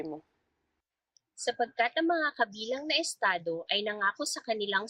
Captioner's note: speaking filipino